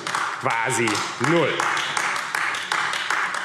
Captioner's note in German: Beifall AfD